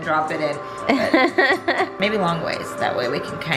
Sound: laughs

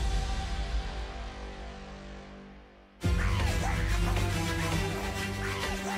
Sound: shrieking

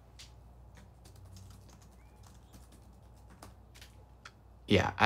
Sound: keyboard clacks

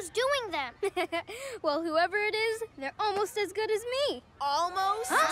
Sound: chuckles

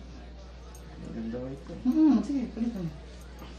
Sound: ding

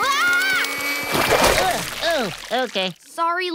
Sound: screaming; groaning

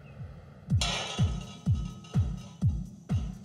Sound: clanging

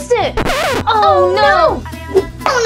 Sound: noise signal

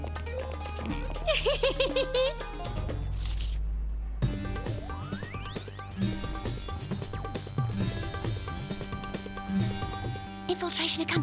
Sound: laughs

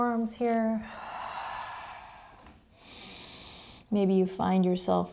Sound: heavy breathing

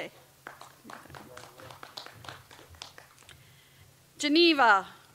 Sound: audience applauds

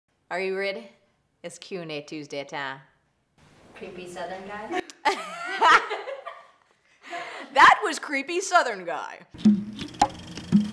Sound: laughter

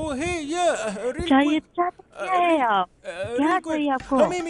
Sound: speaking Hindi

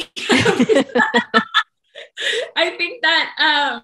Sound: speakers laughing

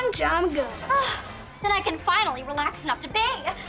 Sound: sighing

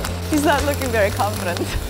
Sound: welding noise

